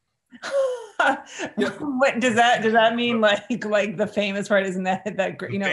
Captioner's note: chuckles